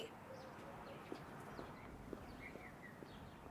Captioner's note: birds chirp